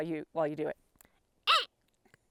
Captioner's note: imitation pika call